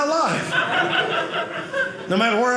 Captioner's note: audience laughing